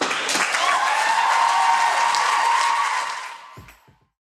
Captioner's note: applause